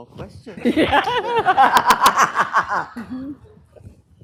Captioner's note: laughter